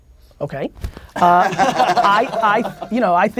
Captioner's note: group laughter